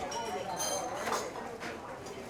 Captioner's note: people chat